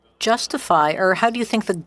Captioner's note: speaking French